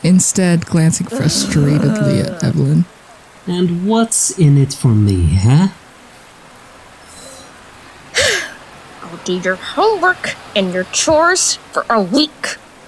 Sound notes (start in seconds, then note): 8.2 sighs quickly; 9.0 through gritted teeth